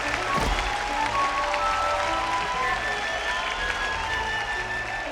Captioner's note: 观众欢呼声